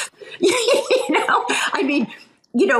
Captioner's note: laughs